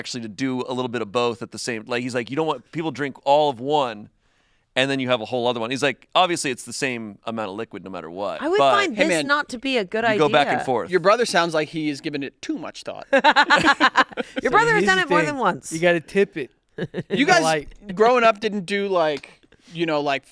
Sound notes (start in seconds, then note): 13.2 laughs